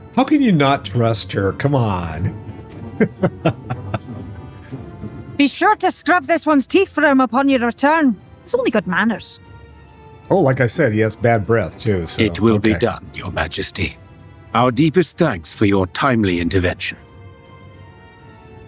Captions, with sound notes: How can you not trust her? Come on. [laughing] Be sure to scrub this one's teeth from upon your return. It's only good manners. Oh, like I said, he has bad breath, too, so... It will be done, Your Majesty. Our deepest thanks for your timely intervention.